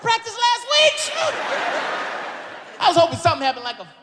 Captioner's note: audience laughs